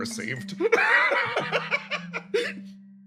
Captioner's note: laugh